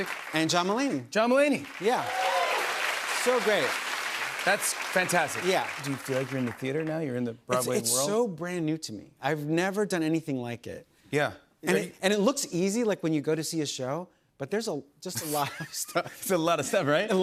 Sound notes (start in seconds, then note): 1.5 cheers and applause